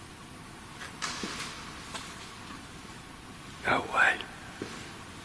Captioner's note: dull thudding